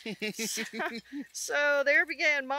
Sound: laughs

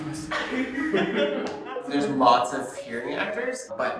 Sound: laughter

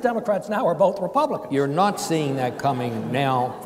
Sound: audience chuckles

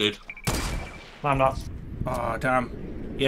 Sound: gun firing

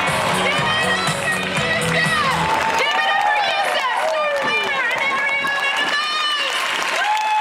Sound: applause

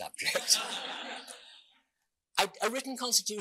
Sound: audience laughing

